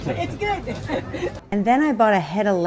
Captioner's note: both laugh